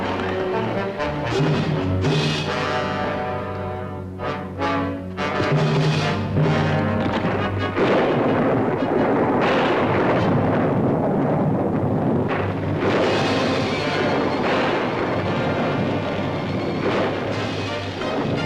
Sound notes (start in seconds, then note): 8.0 thunder cracking